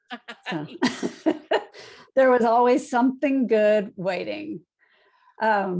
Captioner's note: laughs